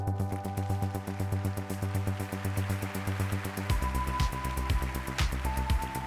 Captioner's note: applause